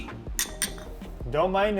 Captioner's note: glasses clink